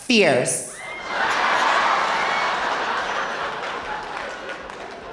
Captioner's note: audience laughing